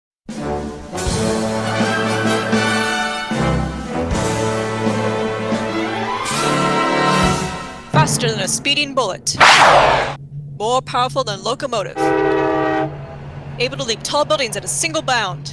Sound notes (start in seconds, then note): 9.3 gunshot, with ricochet; 11.9 train whistle blows, locomotive rumbles